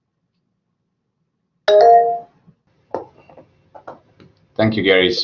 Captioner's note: beeps